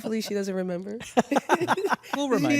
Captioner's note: laughs